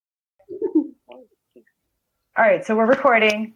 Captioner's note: laughs